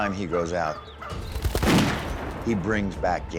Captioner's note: gunshot